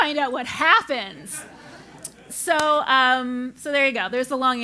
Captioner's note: laugh